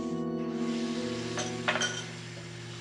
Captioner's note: tap running